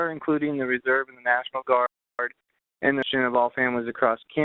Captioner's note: voice distorting